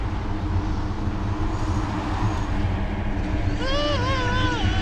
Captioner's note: traffic passing